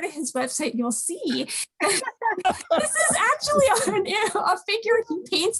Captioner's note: group laughs